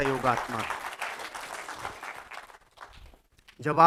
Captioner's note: rounds of applause